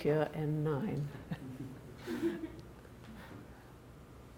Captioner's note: laughing